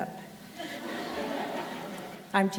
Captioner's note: crowd laughter